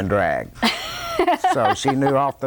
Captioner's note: laughter